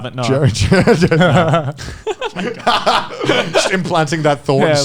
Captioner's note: all laughing